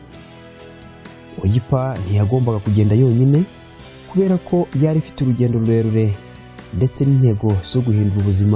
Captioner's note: speaking in Kinyarwanda